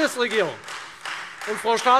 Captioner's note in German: Beifall Freie Demokraten